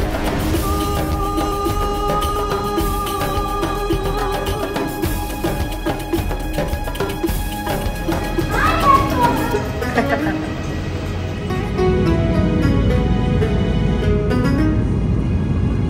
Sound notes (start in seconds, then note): 0.2 background music; 8.4 laugh; 11.2 background music